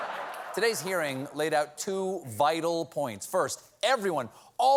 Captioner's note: laughter